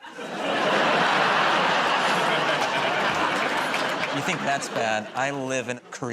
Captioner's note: laughter